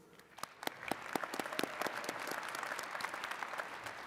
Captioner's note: attendees clapping